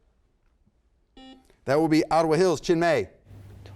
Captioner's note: buzzer sounds